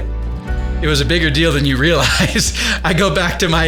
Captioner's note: laughs